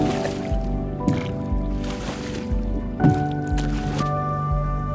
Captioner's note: water splashing